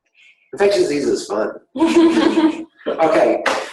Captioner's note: laughing